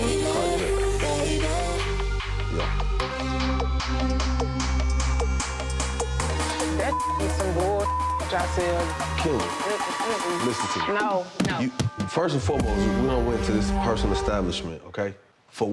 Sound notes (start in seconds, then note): 3.1 upbeat music; 6.7 beep